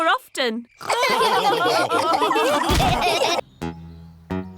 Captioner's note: all laughing